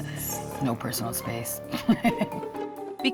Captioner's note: laughs